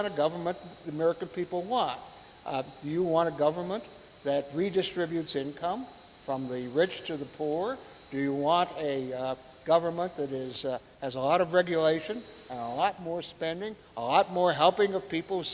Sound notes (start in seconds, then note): none